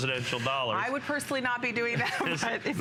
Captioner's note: laughter